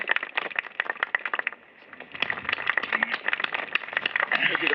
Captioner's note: applause